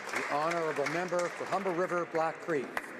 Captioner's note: applause